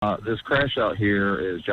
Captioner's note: dispatch recording